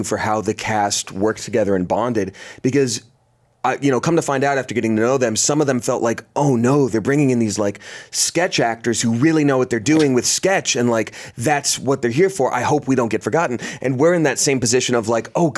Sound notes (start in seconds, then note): none